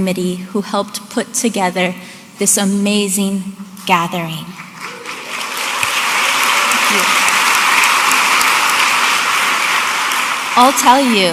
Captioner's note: audience applauding